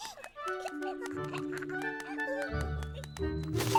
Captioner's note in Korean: 키득거리는 소리